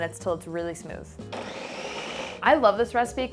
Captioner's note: blender whirring